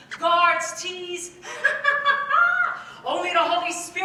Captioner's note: laughs